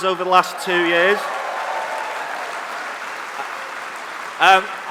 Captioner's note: applause